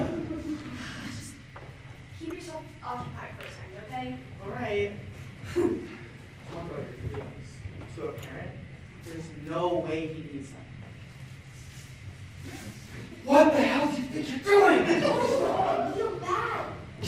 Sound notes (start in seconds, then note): 1.1 sigh